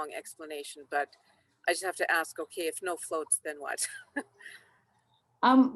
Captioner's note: chuckles